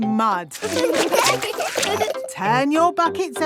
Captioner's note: laughing